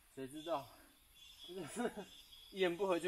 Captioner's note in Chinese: 苦笑